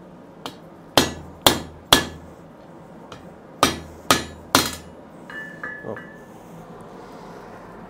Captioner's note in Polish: stukanie młotkiem